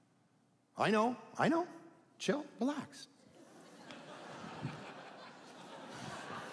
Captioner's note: audience laughing